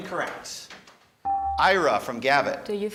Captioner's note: buzzer dinging